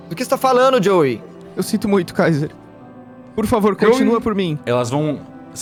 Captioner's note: crying